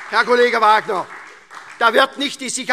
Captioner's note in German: Beifall SPD und DIE LINKE